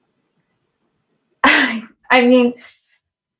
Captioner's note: laughs